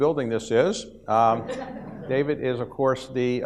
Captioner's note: audience laughs